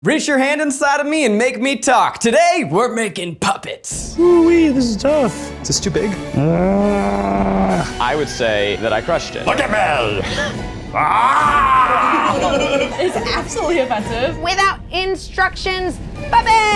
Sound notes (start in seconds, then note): 6.3 groans; 10.2 playful voice; 10.9 groans; 11.4 laughs